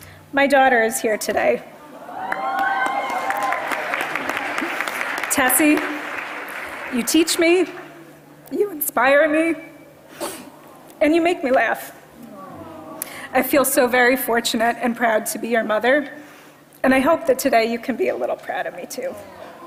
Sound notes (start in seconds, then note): 2.2 applause